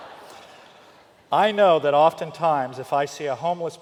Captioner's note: laughter